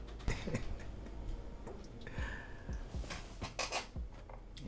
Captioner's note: Errol laughing